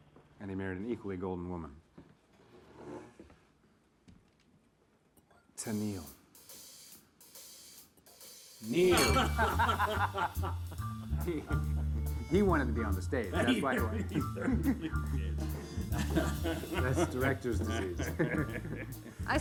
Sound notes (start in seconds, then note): 6.5 upbeat jazz music; 9.3 Marcus and Michael laughing; 13.7 laughing; 16.0 laughing; 18.6 laughing